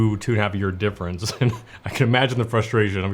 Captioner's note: chuckles